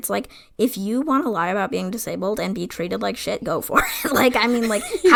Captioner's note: laughs